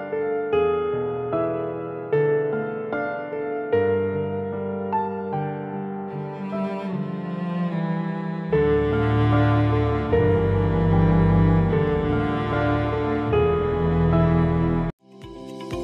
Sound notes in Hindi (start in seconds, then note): none